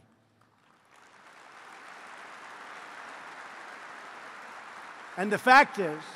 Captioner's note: applause